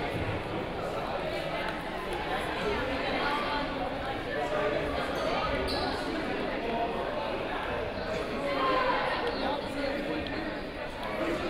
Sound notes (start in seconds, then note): 1.9 crowd murmuring